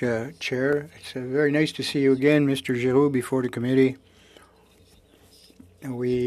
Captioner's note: speaking French